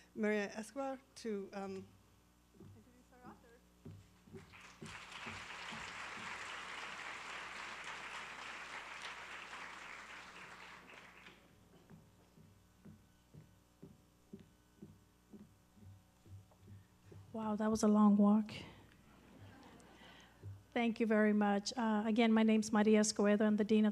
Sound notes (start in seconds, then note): 4.4 applause